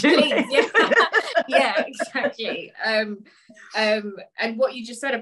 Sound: laughs

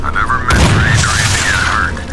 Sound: bang

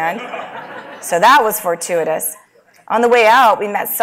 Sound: laugh

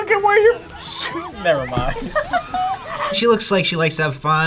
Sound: laughs

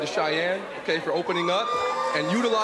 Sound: crowd cheers

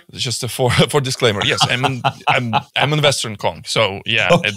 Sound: laughing

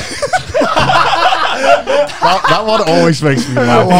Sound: everyone laughs

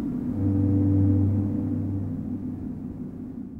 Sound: wind blows gently; distant foghorn blowing

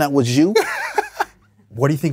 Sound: laughs

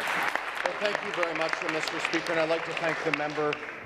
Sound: applause

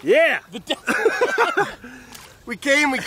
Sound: laughing

